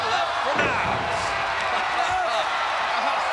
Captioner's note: body thudding; crowd cheering